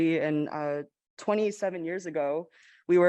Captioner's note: none